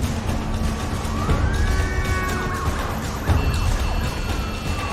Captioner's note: siren wailing, horns honking